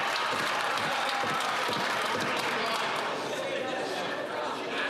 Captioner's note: some Applause